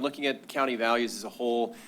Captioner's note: none